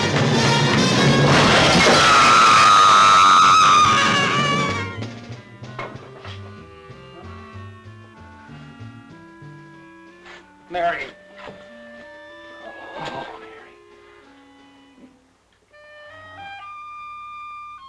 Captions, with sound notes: (screaming) - Mary. Oh, Mary. (mysterious music)